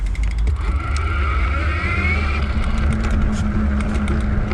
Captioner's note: wheel pattering